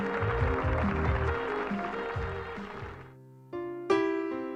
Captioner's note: audience clap